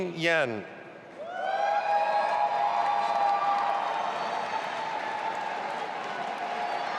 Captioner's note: audience applauding and cheering